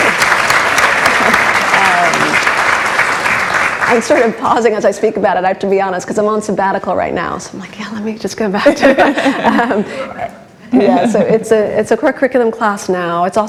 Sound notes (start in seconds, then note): 0.0 applauds; 8.6 laughs